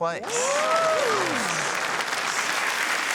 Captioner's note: cheering, applause